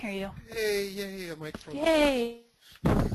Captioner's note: voiceover